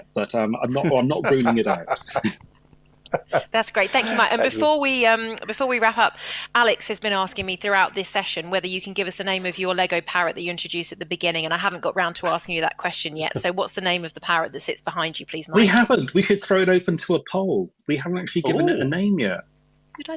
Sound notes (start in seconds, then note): 0.7 laughter